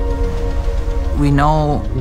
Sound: waves crashing

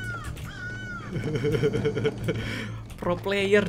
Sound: evil laugh

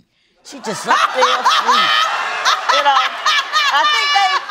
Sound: laughter

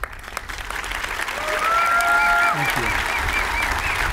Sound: applause

